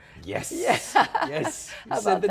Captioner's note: laughs